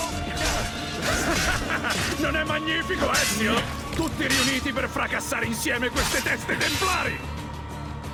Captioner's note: laughs